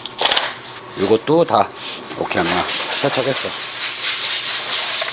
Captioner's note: sniffs